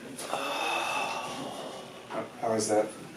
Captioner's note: exhales deeply